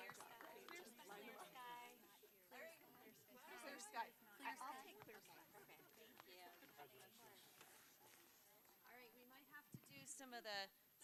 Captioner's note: applause